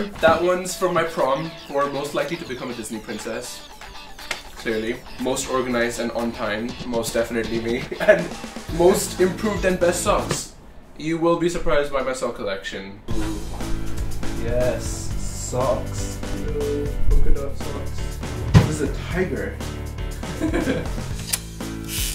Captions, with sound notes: That one’s for my prom for most likely to become a Disney Princess. Clearly. Most organized and on time. Most definitely me. And most improved and best songs. You will be surprised by my song collection. Ooh. Yes, socks! Polka dot socks. This is a tiger. (laughs)